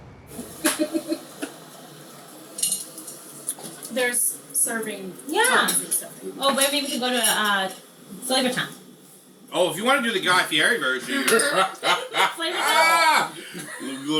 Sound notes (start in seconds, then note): 0.6 chuckling; 11.1 friend laughs